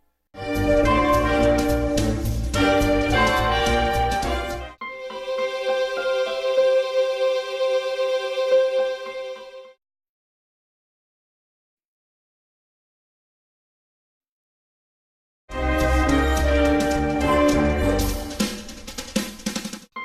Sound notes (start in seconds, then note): 4.7 digital piano and string music playing; 10.0 silence; 19.8 digital piano and string music plays